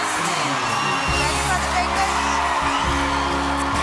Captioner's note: crowd Cheers